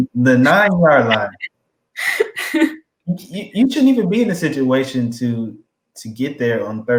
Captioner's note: laugh